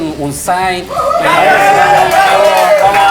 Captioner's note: cheers